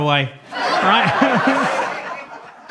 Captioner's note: audience laughs